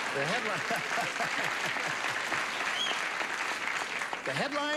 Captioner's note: audience applauds